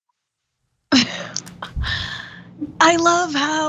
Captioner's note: laugh